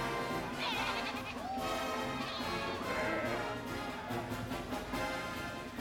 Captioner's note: bleating